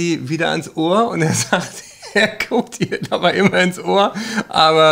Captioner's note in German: lacht